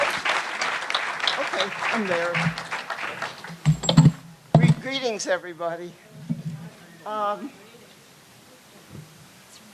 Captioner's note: applause